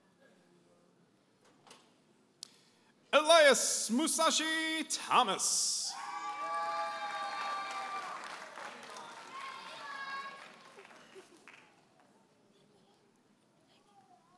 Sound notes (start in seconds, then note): 5.9 audience applauding and cheering